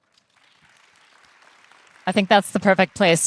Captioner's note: participants applauding